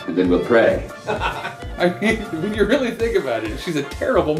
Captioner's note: laughter